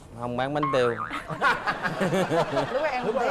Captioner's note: laughing